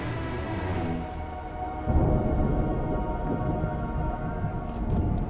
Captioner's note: tense orchestral music plays; thunder crashing